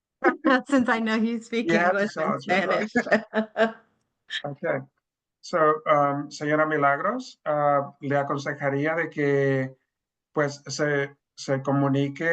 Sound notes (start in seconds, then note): 0.1 chuckles; 2.2 all chuckles; 5.8 speaking Spanish